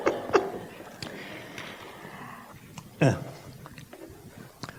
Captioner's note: laughter